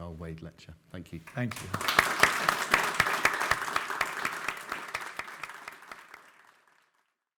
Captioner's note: audience applauding